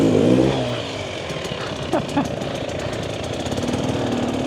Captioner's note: laughing